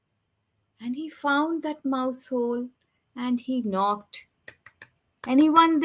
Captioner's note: tapping